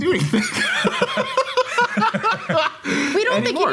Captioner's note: group laughing